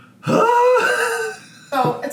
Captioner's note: laughing